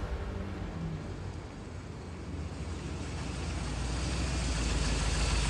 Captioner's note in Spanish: Ruido del vehículo